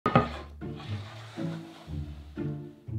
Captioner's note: board sliding; quirky music playing in background throughout video